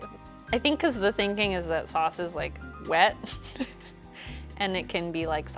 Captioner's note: chuckles